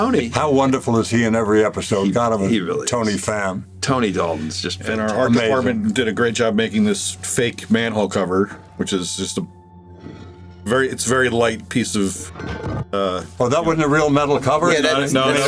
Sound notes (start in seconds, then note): 12.4 metal scrapes